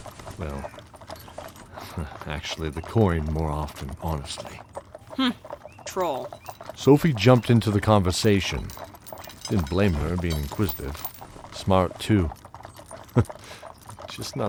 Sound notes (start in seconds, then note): 4.8 coldly; 13.1 chuckle